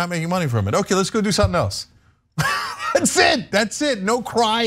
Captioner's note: laugh